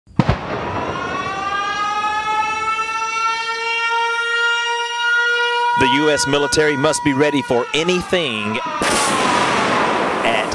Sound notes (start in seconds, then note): 0.5 siren; 8.6 explosion